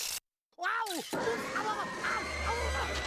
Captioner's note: Daffy yelping